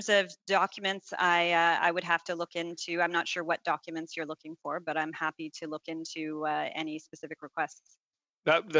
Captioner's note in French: voix de l'interprète